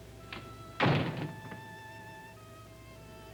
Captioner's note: door shut